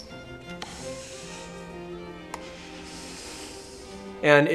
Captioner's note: woman strongly inhales and exhales